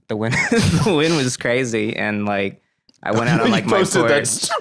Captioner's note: laughs